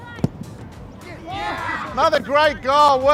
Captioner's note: cheering